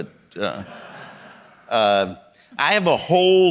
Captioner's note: audience laughing